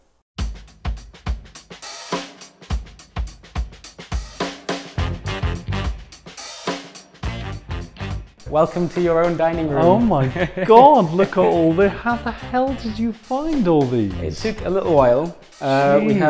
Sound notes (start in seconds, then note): 0.3 upbeat music; 9.5 laughs